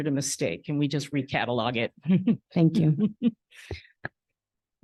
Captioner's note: chuckles